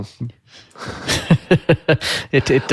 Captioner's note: laughing